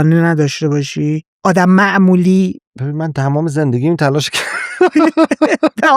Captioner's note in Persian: خنده